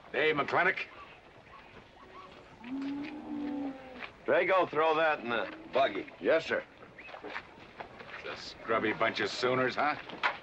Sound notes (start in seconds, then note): 2.6 cattle mooing